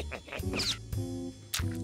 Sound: chuckles

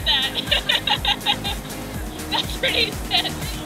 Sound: laughing

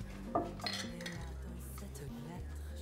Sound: glasses clinking

